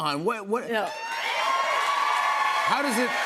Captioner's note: cheers and applause